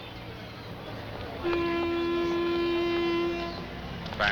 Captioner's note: whistle Blowing